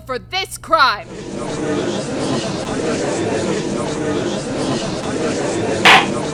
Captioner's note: gallery chattering; gavel slams!